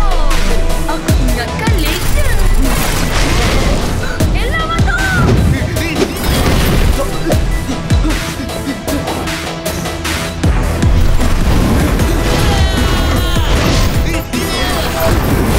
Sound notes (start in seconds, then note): 12.3 Amato screaming